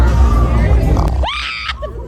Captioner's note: upbeat music; bear growls; mom screaming